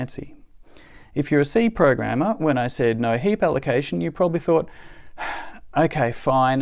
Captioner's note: sigh